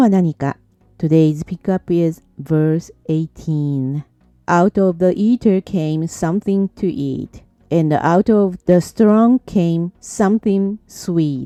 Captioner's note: speaking English